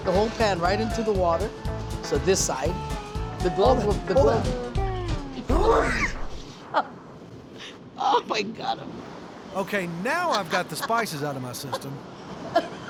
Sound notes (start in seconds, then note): 5.6 coughing hard; 6.7 chef laughs